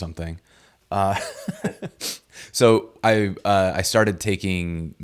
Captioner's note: both laughing